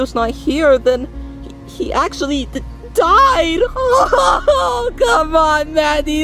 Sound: sobbing

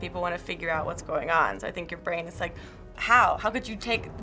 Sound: gasping

